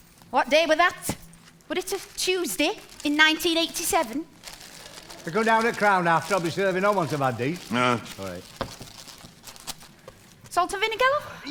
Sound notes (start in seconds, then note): 7.7 grunts